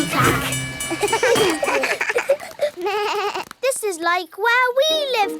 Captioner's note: all laugh